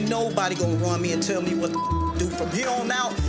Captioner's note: beep